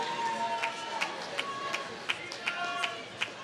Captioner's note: applause